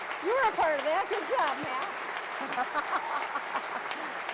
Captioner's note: applause